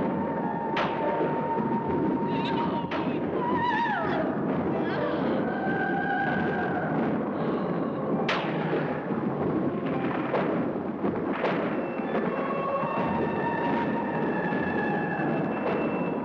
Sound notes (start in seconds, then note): 0.0 eerie music; 0.0 thunder rolls; 4.0 eerie music; 4.0 thunder rolls